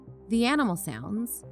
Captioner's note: none